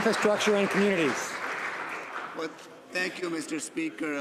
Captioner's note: some Applause